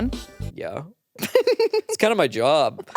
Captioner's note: laughs